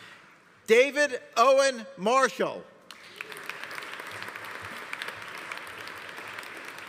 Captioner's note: audience applauding